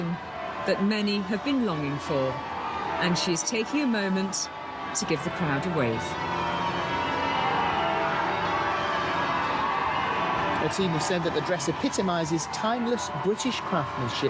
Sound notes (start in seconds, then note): 6.1 bells ringing; 6.1 crowd cheering